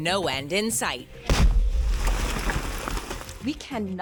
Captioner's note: artillery shooting